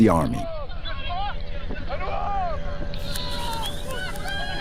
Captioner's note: Arabic spoken audio